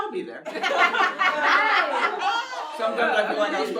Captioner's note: laughter